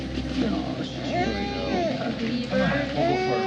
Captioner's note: cries